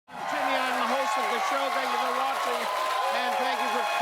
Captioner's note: cheers and applause